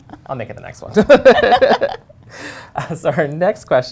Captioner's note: laughing